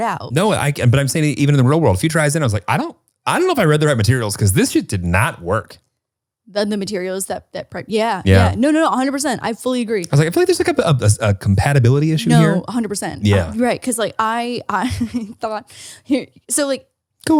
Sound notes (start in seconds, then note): 13.2 laughs